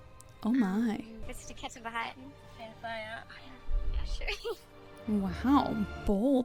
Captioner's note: speaking in German